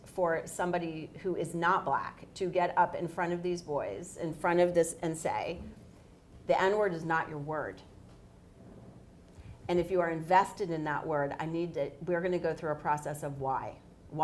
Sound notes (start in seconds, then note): none